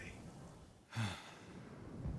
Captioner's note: exhale